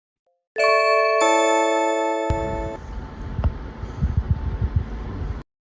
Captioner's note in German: Blink, Türklingel läutet